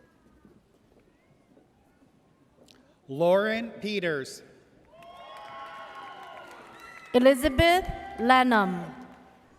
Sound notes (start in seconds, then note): 4.9 audience cheers